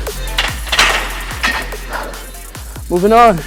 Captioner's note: weights clanging